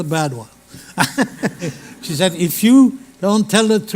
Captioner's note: laughter